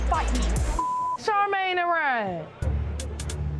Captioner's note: beep